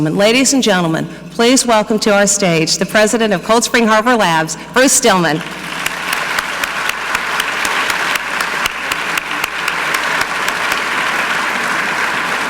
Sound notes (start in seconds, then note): 5.4 audience clapping; 5.4 clapping